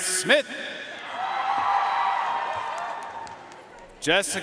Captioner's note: audience cheering and applauding